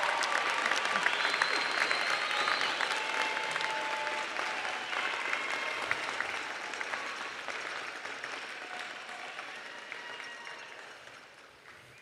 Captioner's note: applause